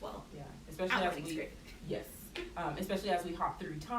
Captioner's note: overlapping chatter